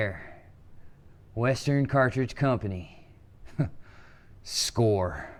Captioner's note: scoffs